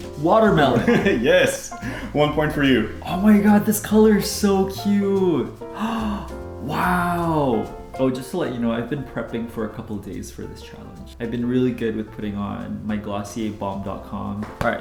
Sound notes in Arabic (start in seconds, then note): 1.1 أقصى ضحكات خافتة